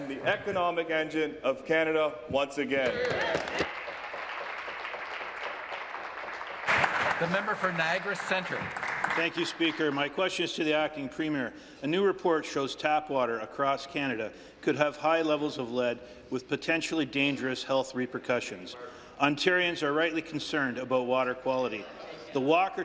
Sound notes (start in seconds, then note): 6.2 applause